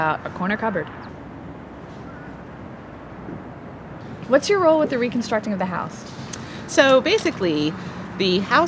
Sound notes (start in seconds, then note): 0.0 sound of bird chirping and outside noise